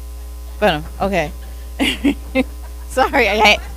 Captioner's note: laughs